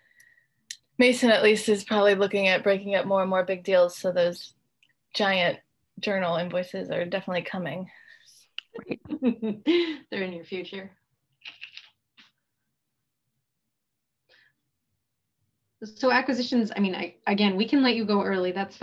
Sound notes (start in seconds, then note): 8.7 laughs